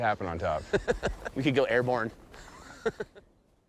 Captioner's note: laughing